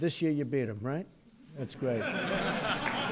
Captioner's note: laughter